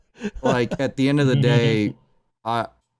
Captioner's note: laughs slightly